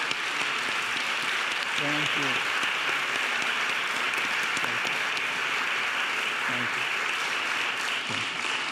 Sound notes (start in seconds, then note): 3.4 audience applauding